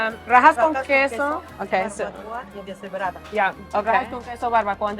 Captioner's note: speaks Spanish